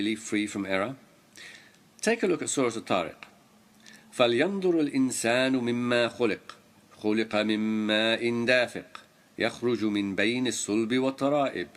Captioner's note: arabic words